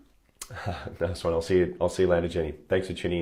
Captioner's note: chuckles